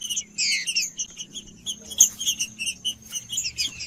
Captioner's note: trinca ferro cantando